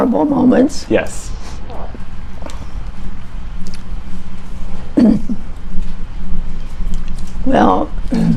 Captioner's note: clears throat and thinks